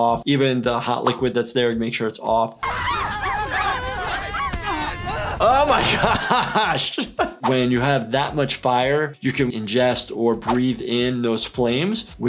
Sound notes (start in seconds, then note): 2.6 screaming